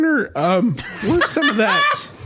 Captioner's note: laughs